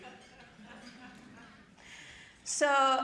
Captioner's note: audience chuckling